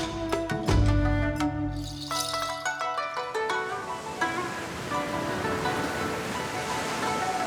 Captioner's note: soft gentle music; waves sloshing